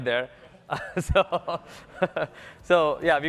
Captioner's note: laughter